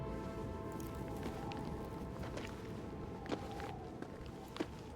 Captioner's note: wind howling